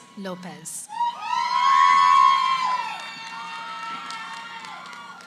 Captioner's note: cheering